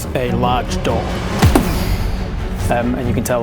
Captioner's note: boosh!